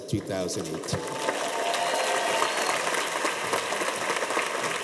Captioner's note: cheers and applause